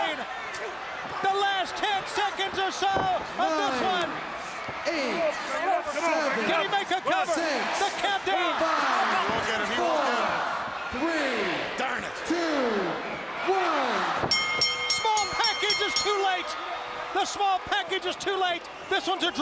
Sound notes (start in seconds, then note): 14.3 bell ringing